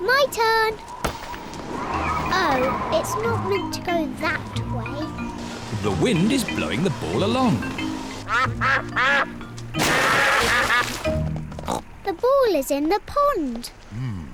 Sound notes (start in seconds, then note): 8.7 ducks quack